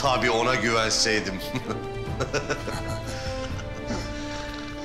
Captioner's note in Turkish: Gülme sesi